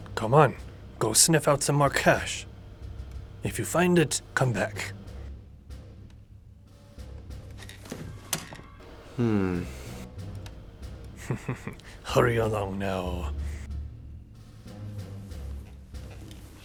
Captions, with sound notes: Come on, go sniff out some more cash. If you find it, come back. (tense music) - Hm. - (chuckles) Hurry along now.